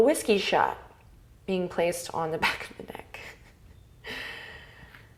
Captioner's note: laughs